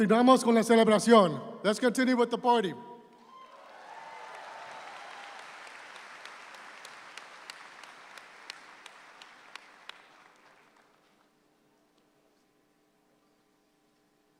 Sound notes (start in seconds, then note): 0.0 speaks in Spanish; 3.3 audience applauds